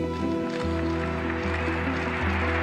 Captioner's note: crowd cheers